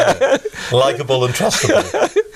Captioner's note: laughing